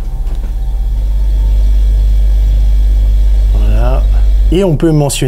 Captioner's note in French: Grincements de parquet; Bruit du frigo